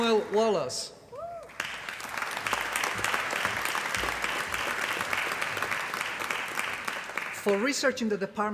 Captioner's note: applause